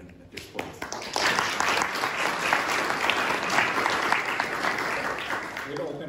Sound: applause

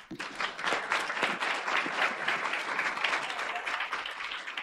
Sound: audience applauds

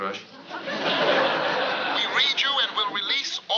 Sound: on walkie-talkie

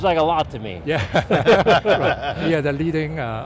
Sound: laughs

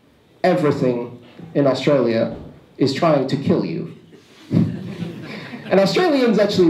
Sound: laughter

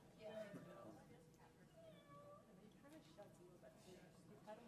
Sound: robotic cat meowing

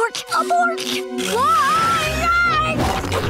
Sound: whispering; screaming

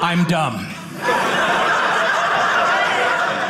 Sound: audience laughing

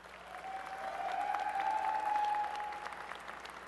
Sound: applause and cheering

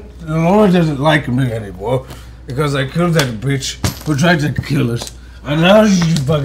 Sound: slurred

